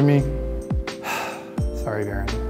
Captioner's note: sighing